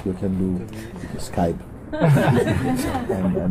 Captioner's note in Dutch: gelach